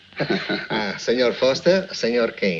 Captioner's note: men chuckle